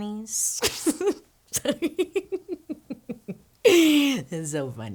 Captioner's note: chuckles